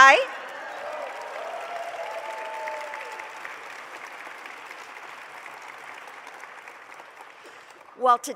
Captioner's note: applause